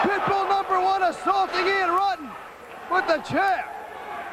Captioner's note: crowd cheering